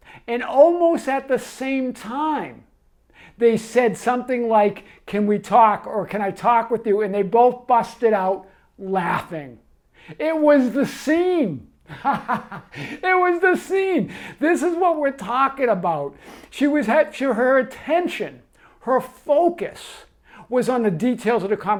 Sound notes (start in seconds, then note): 11.8 laughs